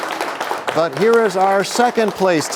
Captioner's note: applause